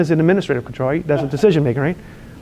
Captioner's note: student one laughs